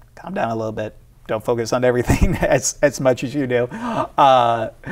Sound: chuckles

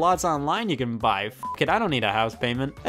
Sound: beep

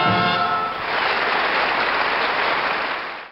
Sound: audience applauds

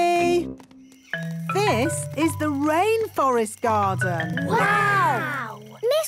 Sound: rainforest sounds

